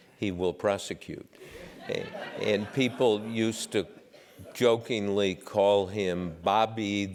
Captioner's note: laugh